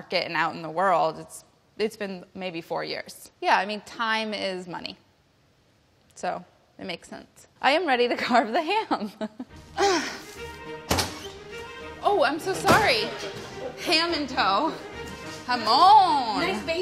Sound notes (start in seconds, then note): 9.3 laughs; 9.8 grunts